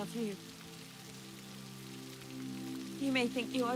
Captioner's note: gentle music; rain spattering